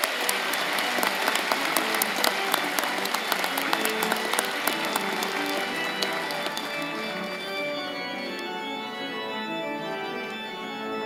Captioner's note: applause